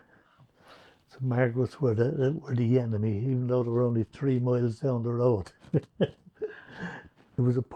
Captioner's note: laughs